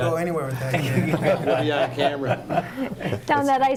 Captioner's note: group laughing